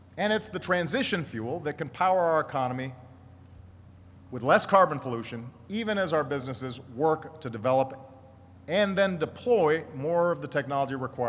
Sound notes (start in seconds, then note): none